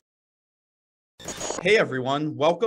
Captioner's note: static